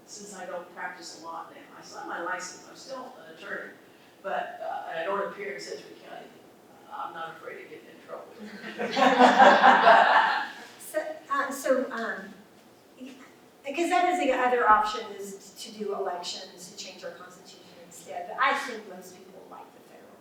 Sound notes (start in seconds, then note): 8.4 laughter